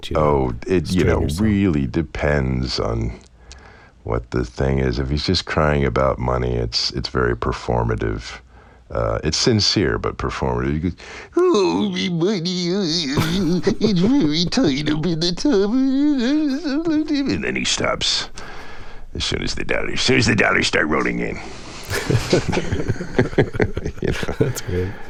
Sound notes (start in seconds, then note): 11.3 As Mr. Krabs, crying; 16.2 vocalizing; 21.8 laughter